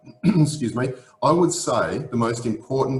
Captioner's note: clears throat